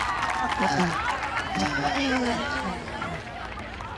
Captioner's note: people applauding